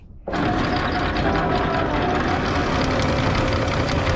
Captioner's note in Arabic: صوت المحرك